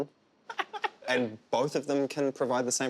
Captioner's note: laughing